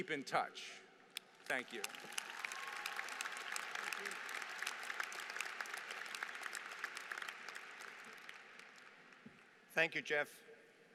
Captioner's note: applause